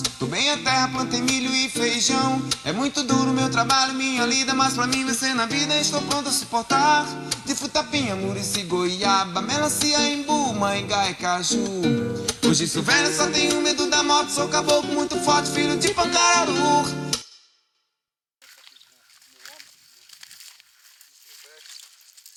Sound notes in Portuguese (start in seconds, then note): 17.2 Música silencia